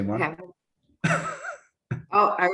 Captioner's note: laughing